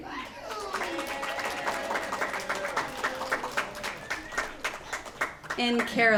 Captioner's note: applause